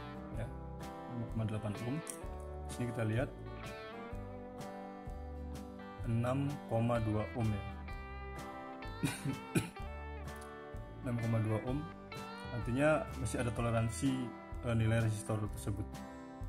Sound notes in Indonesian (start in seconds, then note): 9.0 batuk